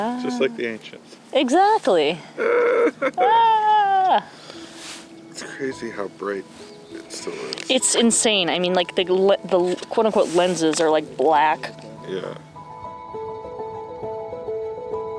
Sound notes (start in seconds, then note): 2.4 laughing/fake screaming; 13.7 delicate piano music